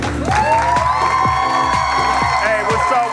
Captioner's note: audience cheering